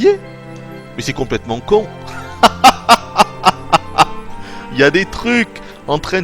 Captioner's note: laughs